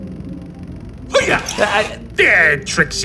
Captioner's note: hiyuh!